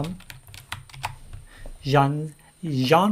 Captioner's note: keyboard keys clank